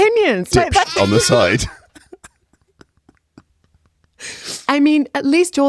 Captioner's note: baa